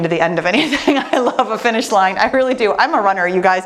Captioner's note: laughs